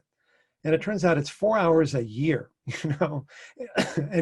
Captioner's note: laughs